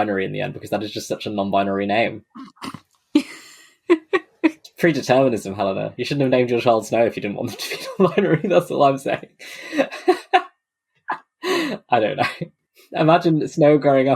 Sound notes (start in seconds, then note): 3.2 laughs; 9.0 laughing